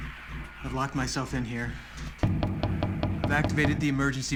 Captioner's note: knocking continues